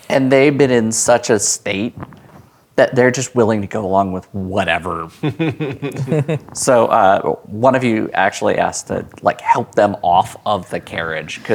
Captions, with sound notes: - And they've been in such a state, that they're just willing to go along with whatever. (players laughing) So, uh... one of you actually has to, like, help them off of the carriage,